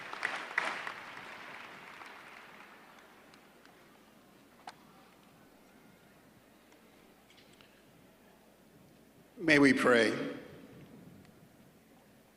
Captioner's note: applause